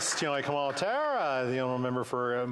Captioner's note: some Applause